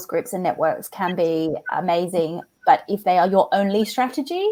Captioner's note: laughs